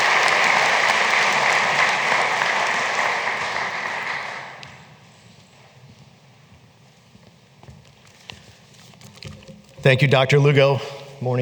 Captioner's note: applause